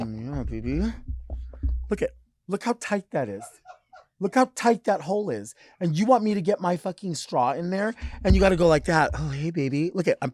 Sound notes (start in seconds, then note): 3.4 crew member chuckling